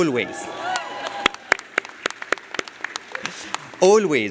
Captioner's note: audience applauds